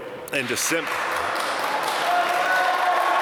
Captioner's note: applause